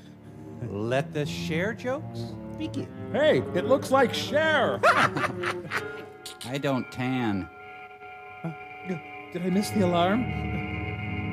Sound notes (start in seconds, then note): 4.8 cackling